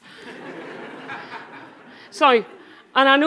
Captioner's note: audience laughing